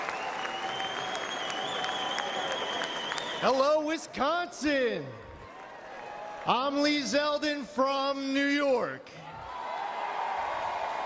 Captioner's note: applause